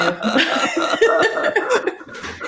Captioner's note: laughter